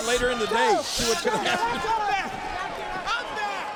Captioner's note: laughs